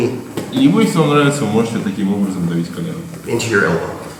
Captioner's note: speaking in a foreign language